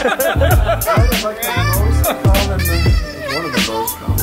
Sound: laughing

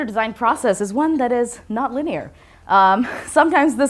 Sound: chuckles

